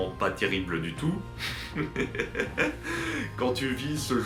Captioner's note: laughs